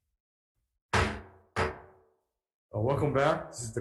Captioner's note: hammer thud